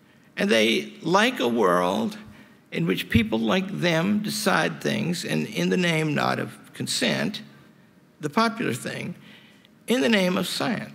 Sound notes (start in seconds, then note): none